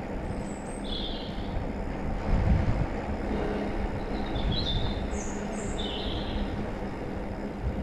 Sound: birds singing 🎶

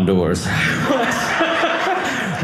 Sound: audience laughing

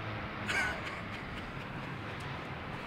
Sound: sobs

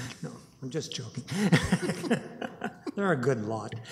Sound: laughs

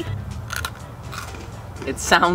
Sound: chewing

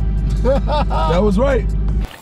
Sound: laughing

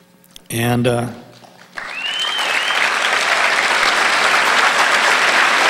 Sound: audience applauding

